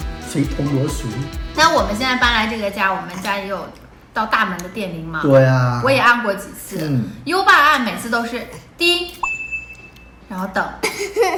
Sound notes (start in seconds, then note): 9.2 bell